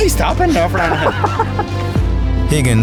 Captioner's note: laughing